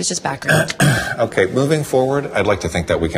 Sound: clears throat

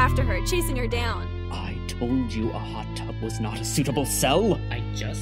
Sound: the hum fades too

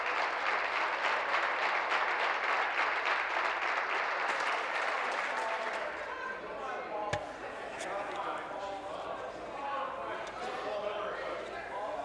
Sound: applause

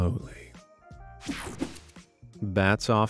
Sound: graphics whooshing

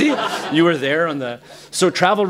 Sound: laughter

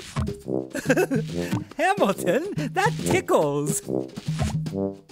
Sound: laughing

